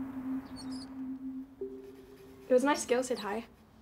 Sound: Polly the Rat squeaks

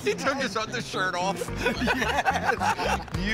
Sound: laughing

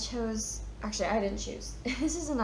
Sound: chuckles

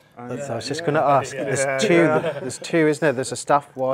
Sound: chuckles

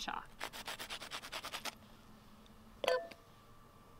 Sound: chalk scratching

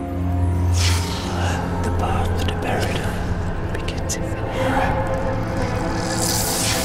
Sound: ghostly Voice

